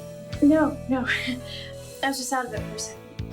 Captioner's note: Margaret laughing